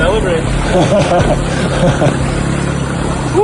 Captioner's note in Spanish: ríe